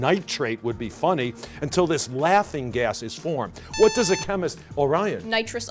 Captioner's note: buzzer